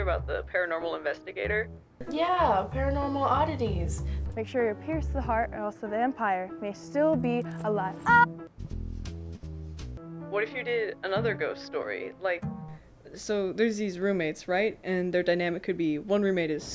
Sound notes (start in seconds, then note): 9.4 screams